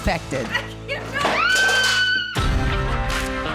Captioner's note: screaming